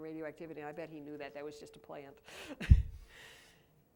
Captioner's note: laughs